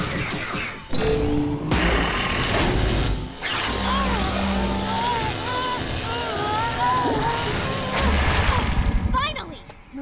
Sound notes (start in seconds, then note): 3.8 groaning